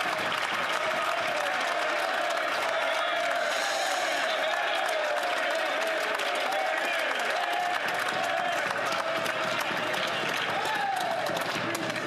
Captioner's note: some Applause